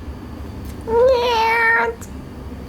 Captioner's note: meow